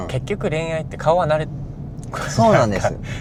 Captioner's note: laughs